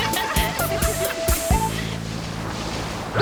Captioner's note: laughter